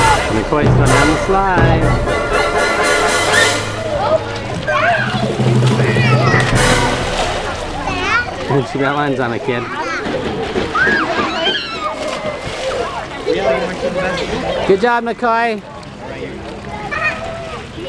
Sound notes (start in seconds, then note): 2.8 dramatic orchestral music; 11.6 children laughing and yelling